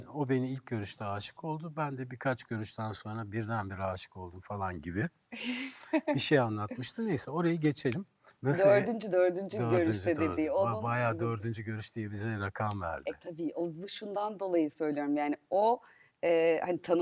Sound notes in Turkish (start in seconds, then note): 5.6 kahkaha